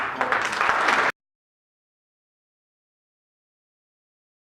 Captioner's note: applause